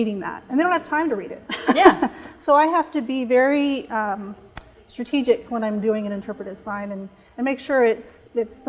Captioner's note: chuckle